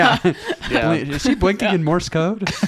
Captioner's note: laughing